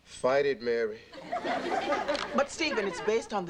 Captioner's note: audience laughing